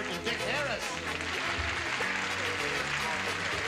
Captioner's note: applause